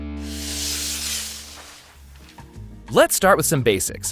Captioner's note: paper whooshing